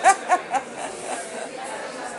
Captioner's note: laughs